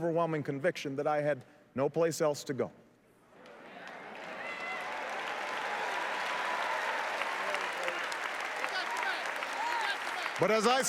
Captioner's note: applause